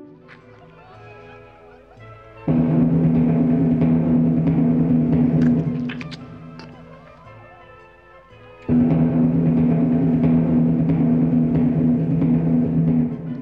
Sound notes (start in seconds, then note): 2.4 dramatic drums; 5.8 audible chewing